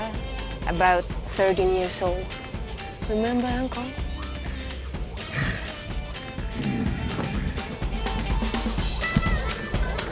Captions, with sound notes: about 30-years-old. Remember uncle? (gentle upbeat music) (John groaning) (gentle upbeat music)